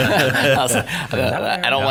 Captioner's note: all laugh